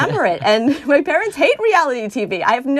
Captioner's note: laughter